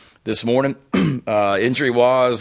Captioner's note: coughs